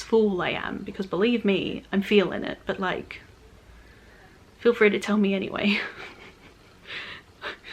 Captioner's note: laughs